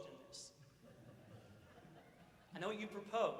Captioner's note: audience laughs